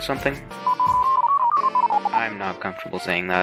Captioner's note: rapid and intense beeping